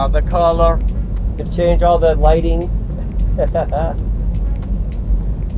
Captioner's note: laughs